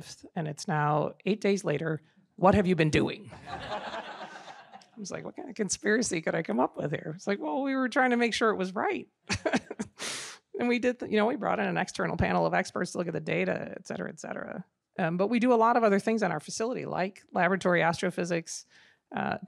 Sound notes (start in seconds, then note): 3.4 audience laughing; 9.3 laughs